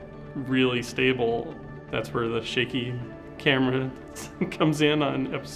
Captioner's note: laughs